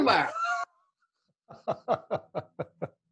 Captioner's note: laughing